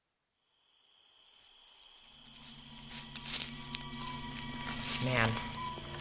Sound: crickets chirping, leaves rustling

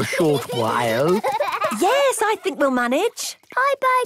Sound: giggling

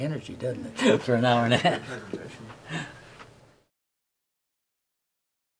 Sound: laughing

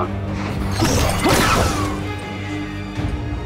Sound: blaster blasts; intense music

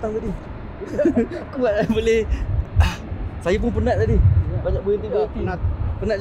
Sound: laugh

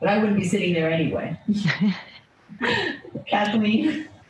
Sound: laughs

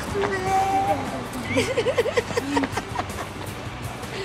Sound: they laugh

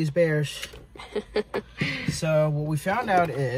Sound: laughs

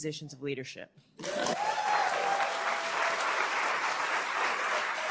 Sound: cheering, applause

